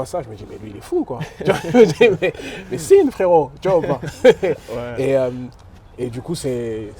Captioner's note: laughs